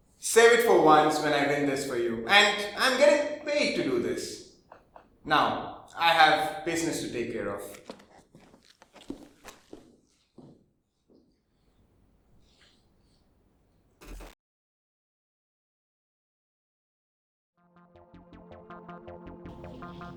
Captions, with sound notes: Save it for when I win this for you. And I am getting paid to do this. Now, I have business to take care of. [SHARP GLITCH SOUND] [TENSE MUSIC STARTS]